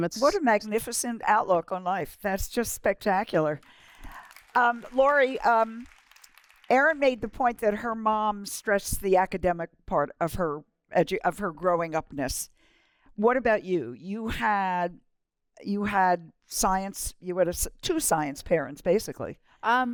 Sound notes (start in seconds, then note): 3.4 applause